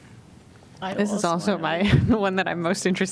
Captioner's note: laughter